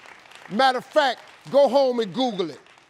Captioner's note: audience applauding